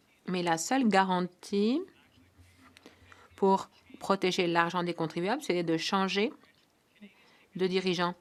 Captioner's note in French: voix de l'interprète